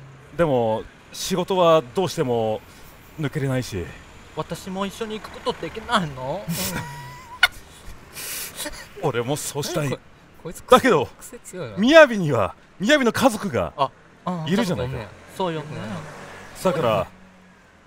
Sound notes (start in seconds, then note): 6.4 laughs